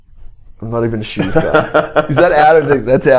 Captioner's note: they laugh